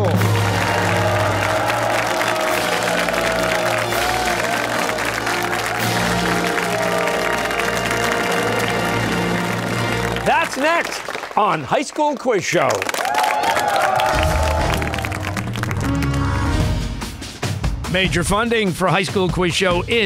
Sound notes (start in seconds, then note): 0.2 fanfare; 4.4 cheers and applause